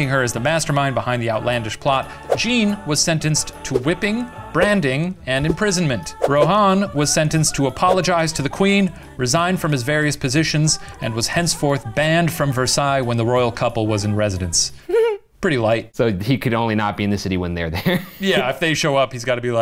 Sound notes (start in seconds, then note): 14.9 laughs; 18.2 laughs